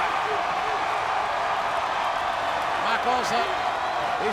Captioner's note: audience cheering